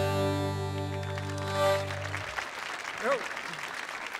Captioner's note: audience applauding